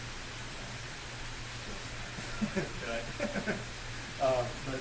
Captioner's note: laughter